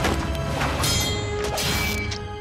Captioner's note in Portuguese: choque